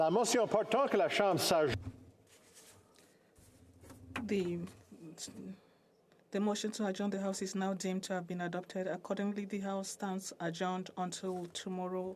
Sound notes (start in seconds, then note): 6.1 speaking French